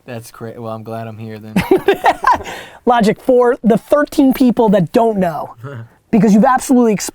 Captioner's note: laughs